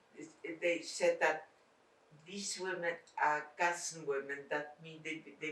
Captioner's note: non-english